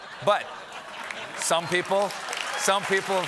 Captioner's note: laughter; applause